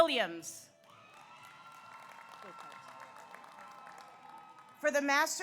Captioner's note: audience applauds; audience cheers